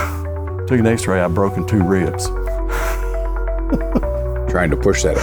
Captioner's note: chuckles